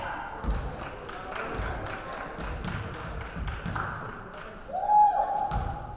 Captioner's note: applause